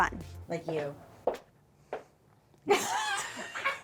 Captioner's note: footsteps thudding; chuckling